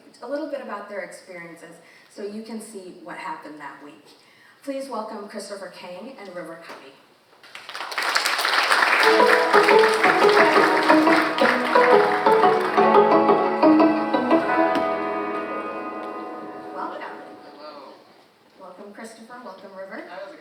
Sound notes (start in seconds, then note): 7.4 audience applauding; 8.8 cheerful music